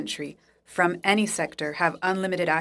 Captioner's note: speaking French